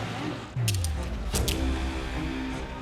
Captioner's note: cuffs clicking